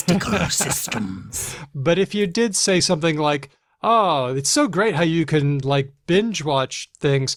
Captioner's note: laughs